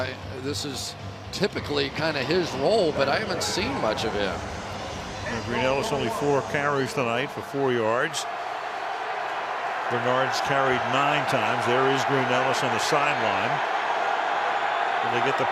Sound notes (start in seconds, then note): 9.2 cheering